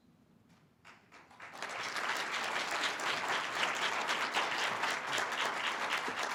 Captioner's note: audience applause